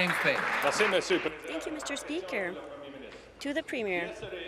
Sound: applause

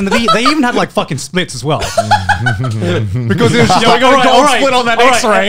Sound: laughing

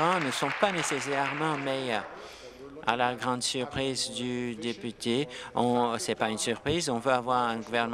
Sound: applause

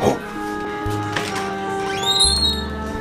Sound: door squeeks

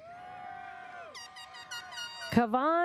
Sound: audience cheers; airhorn sounds

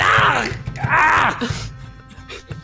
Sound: screams

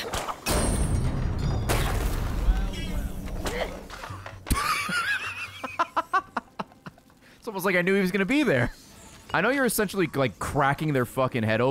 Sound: laughs

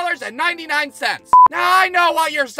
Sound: beep!

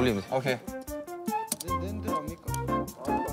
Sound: click

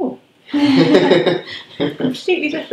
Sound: laughs

